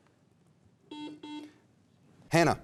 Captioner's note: buzzer dings